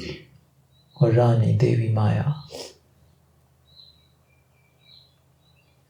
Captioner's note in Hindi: गला साफ़ करने की आवाज़; नाक से की जाने वाली आवाज़